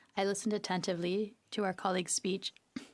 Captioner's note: speaking French